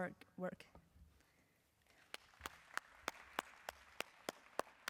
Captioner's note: applause